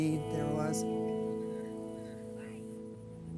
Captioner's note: chattering